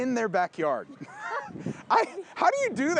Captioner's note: laughing